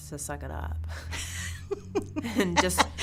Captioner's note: laughing